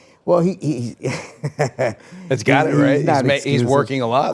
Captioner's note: person laughing